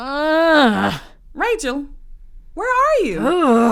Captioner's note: groans